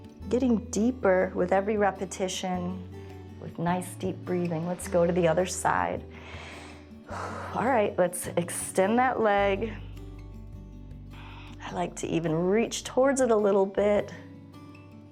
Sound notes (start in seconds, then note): 6.1 inhales and exhales